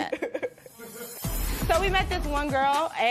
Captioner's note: laughs